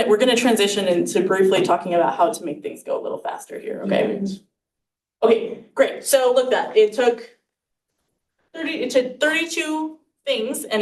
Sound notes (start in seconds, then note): 4.0 student faintly speaking